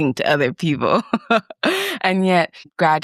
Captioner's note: laughs